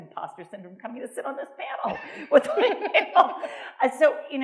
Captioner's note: laughs